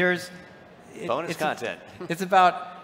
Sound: chuckles

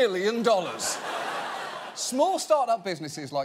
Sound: audience laughing

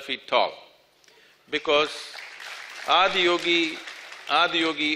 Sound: applause

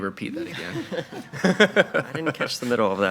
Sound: all laughing

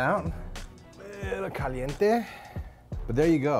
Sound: groaning

